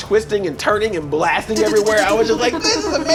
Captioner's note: blasting noises